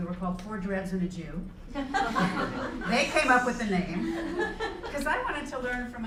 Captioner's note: laugh